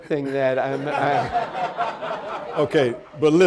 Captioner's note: audience laughing